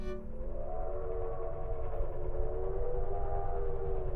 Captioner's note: train chugging